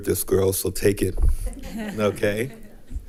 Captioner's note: attendants laughing